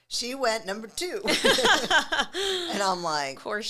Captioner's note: both laughing